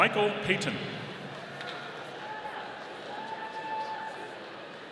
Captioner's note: audience cheering